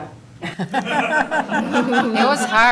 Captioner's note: laughter